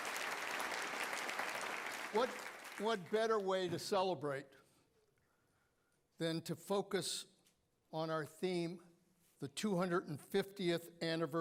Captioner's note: applause